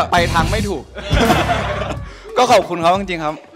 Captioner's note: laughs